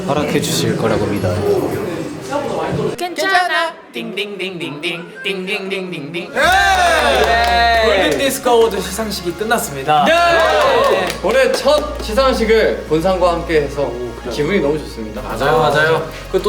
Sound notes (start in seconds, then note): 10.0 clap